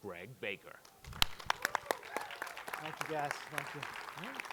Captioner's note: audience cheering